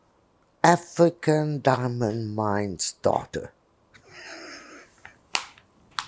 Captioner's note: laughing